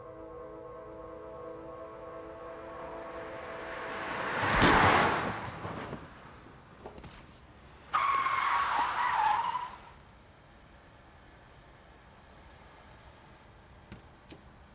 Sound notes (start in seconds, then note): 2.6 car approaches; 7.6 brakes screech; 13.9 car door opens